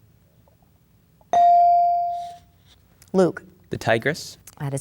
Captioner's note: bell dings